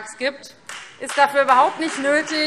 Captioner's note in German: Beifall Freie Demokraten - Zuruf BÜNDNIS 90/DIE GRÜNEN